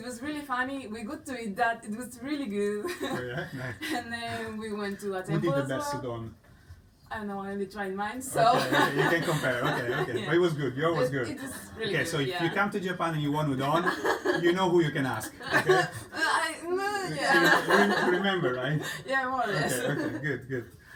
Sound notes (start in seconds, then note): 8.5 laughs